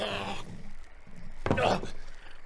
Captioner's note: thud